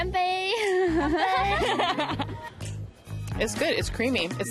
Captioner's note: both laugh